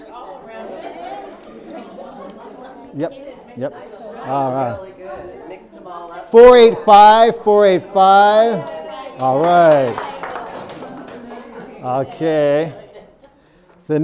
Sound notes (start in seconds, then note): 0.1 people talking; 8.6 audience cheering and applauding